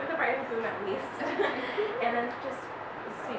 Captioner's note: laughs